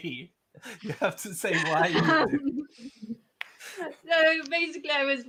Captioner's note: continue laughing; laughing